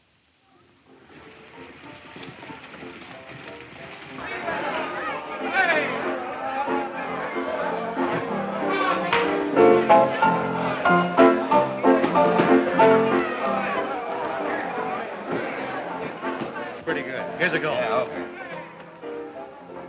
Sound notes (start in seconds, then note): 3.6 boisterous patrons; 3.6 cheerful nostalgic music